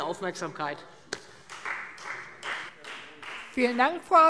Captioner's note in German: Beifall Freie Demokraten